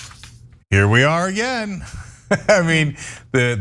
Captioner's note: laugh